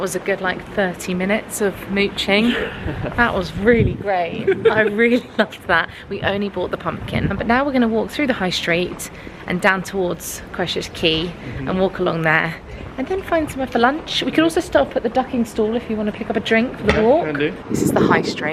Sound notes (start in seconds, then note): 4.0 laughing